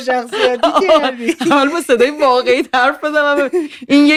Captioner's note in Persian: خنده